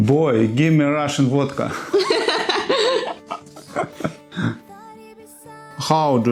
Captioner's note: laugh